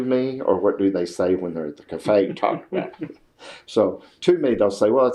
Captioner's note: laughs